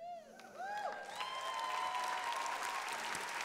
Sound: applause

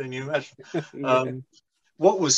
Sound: laughs

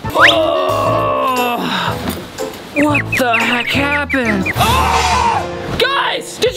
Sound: boing; groans; screams

